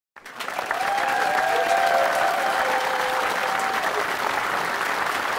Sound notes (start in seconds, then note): 0.1 applause and cheering